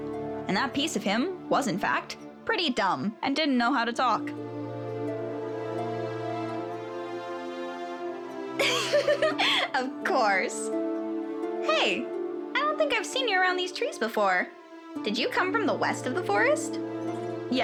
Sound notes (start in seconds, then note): 8.6 chuckles